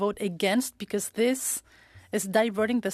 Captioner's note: speaking French